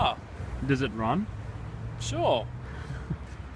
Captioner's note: uncertainly; laughs